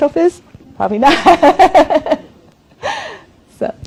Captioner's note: laughs